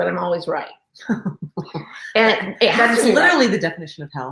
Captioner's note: laughing